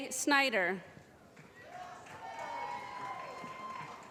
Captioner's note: applause